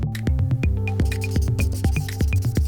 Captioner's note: scribble sounds